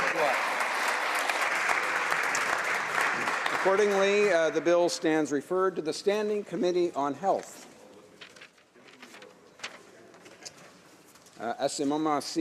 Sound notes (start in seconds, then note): 0.0 applause